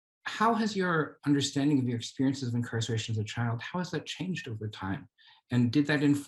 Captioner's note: none